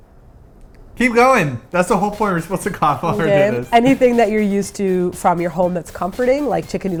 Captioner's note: coughs